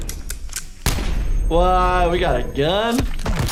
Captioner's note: gun clicks; bullet fires